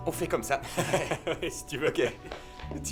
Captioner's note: laughing